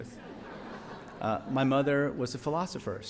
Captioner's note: audience laughs